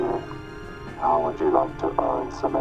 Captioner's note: robotic Voice